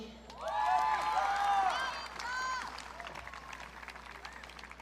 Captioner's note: audience cheering